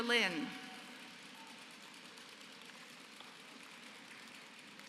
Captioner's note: applause